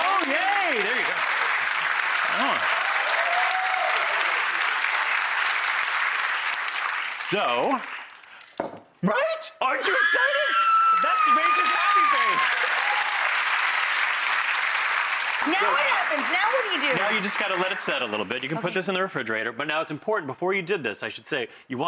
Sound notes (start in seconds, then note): 2.5 applause; 9.8 screaming; 12.6 applause